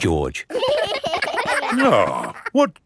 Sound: giggling

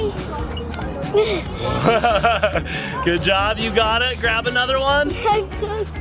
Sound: laughs

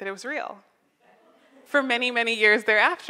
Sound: audience laughs

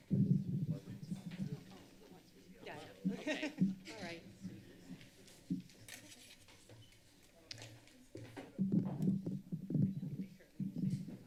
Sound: background chatter; laughter

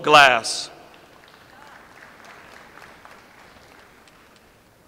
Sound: audience applauds

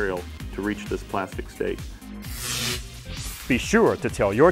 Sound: sound Effects

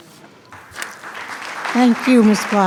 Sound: attendees clapping

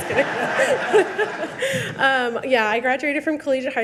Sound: all laugh

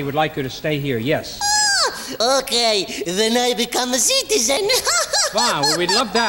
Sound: laughs

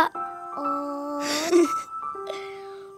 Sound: laughing

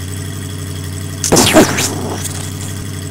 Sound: explosion

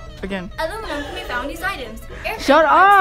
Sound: loud Inhale

